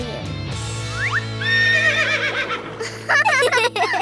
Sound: neighing; giggling

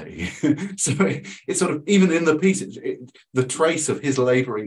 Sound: chuckles

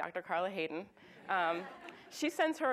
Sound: audience laughs

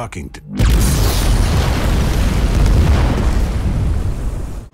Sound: building explodes

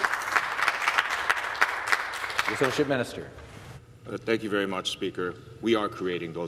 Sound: some Applause

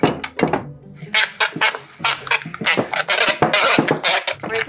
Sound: mill creaking

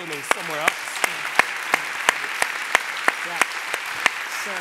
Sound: applause

